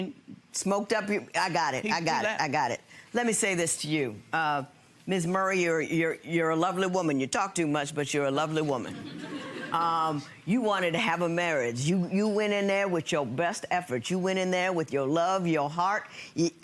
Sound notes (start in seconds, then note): 9.0 audience chuckling